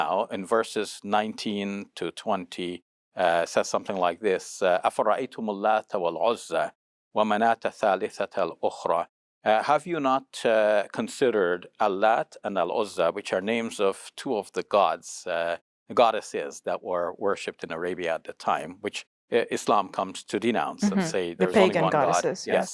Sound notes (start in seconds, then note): 4.8 speaks in foreign language